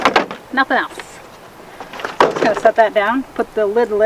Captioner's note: clicking